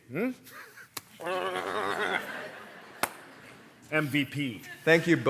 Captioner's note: grunts